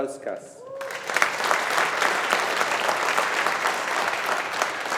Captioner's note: audience applauding